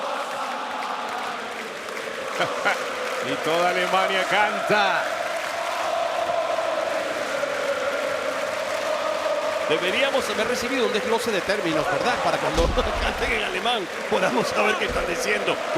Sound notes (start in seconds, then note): 2.3 laugh